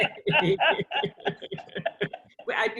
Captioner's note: laughter